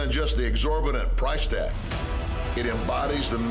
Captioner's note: none